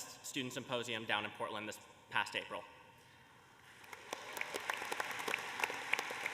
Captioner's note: applause